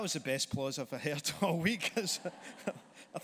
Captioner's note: laughs